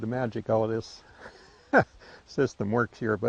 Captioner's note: laughing